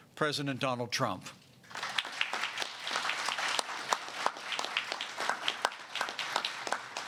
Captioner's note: applause